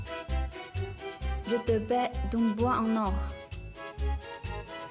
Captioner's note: French